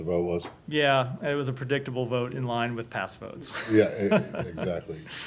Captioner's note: laughter